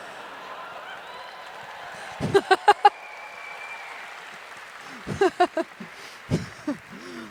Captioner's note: applause; laughter